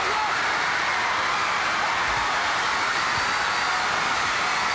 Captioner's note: audience roaring